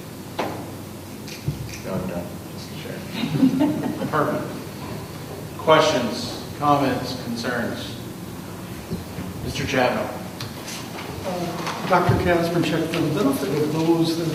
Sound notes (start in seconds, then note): 3.1 laughing